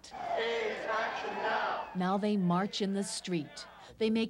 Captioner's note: chanting